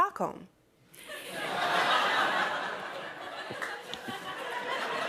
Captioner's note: laughter